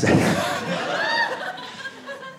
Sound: audience laughing

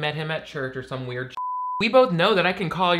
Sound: beep

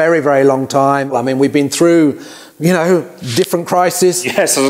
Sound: chuckles

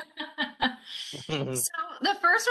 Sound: laughing; chuckling

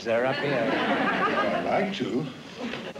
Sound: laughter

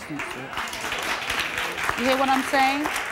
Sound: applause

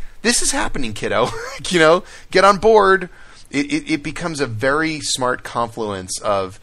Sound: laughs

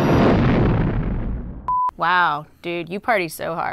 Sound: ship blast off

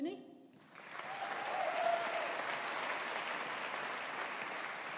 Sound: audience applauding

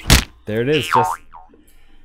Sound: meat slap sound; boing

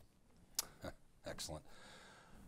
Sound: chuckles

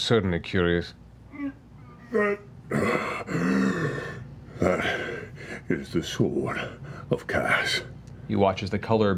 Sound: deep breath

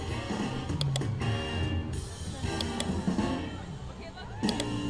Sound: mouse clicking

